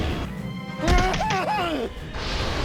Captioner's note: whimpers